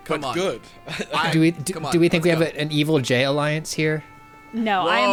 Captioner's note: pat